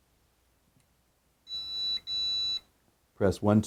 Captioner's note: powerbolt beeping